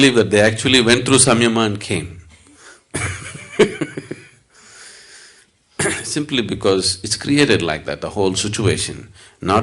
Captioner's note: laughs